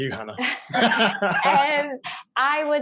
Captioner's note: both laugh